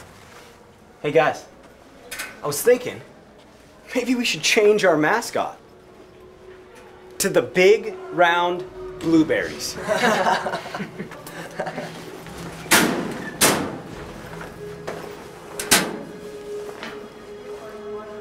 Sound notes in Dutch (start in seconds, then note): 9.7 lacht